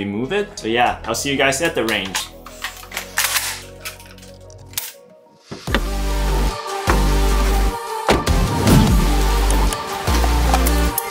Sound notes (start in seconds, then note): 2.0 gun clicking; 5.4 upbeat music; 8.0 car door thuds